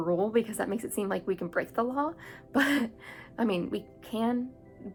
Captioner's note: laugh and contemplation face